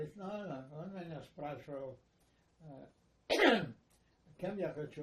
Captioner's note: clears throat